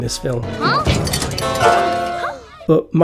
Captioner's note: crashing sounds